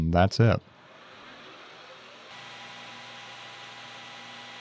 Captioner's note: lathe whirring